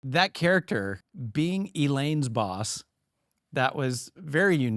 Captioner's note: none